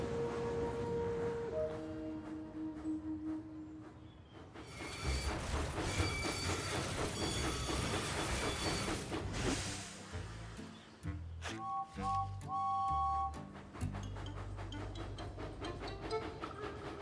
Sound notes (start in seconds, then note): 4.5 wheels screech; 11.6 james whistles